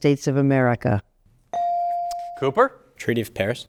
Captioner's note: buzzer dings